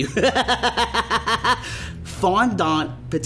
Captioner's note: laughter